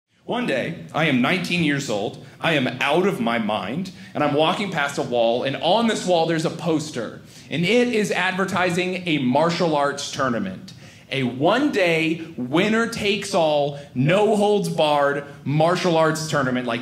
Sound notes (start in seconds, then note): none